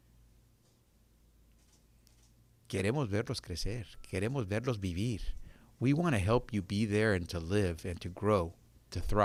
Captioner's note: speaking Spanish